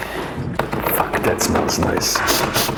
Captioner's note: metal thudding